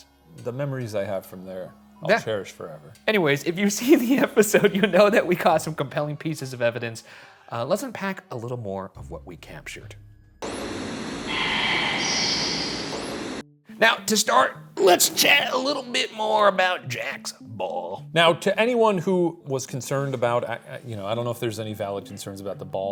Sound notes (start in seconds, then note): 10.3 ghostly whispering; 10.4 static hissing